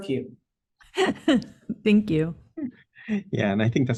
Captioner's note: laughs